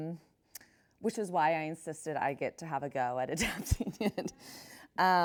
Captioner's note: chuckles